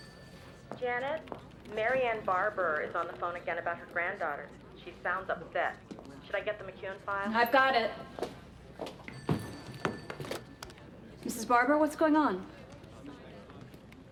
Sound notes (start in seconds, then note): 9.0 phone rings